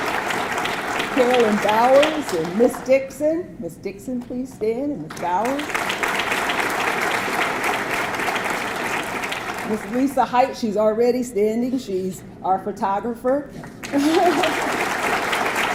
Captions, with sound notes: Carolyn Bowers and Ms. Dixon. Ms. Dixon please stand and Ms. Bowers. (audience clapping) Ms. Lisa Hite. She's already standing, she's our photographer. (laughs)